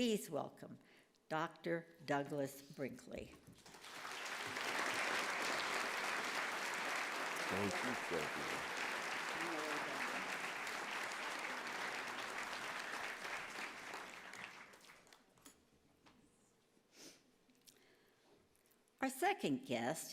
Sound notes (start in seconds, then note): 9.4 applause